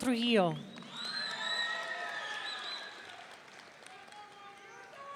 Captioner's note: audience cheering